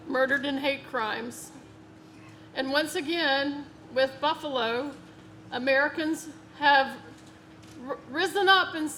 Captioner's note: none